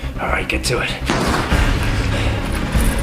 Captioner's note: gunshot